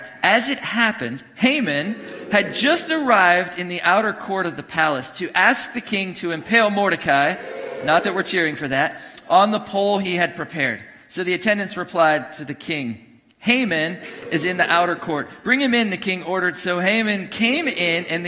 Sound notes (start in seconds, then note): 1.8 congregation booing; 6.9 congregation cheering; 13.9 congregation booing; 17.2 congregation booing